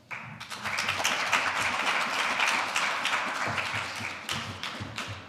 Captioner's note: audience applauding